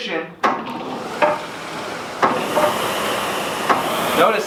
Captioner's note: SkiErg whirring